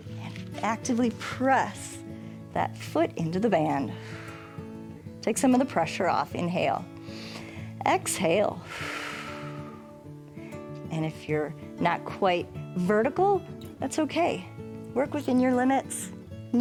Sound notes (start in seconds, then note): 3.9 exhales; 7.3 inhales; 8.5 exhales